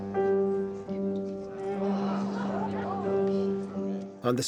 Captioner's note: guests Gasping, Murmuring